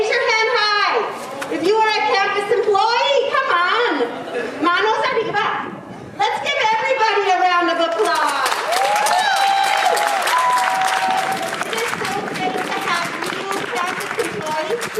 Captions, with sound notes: Raise your hand high! If you are a campus employee, come on! (speaking in foreign language) Let's give everybody a round of applause! (audience applauding) It's so great to have you campus employees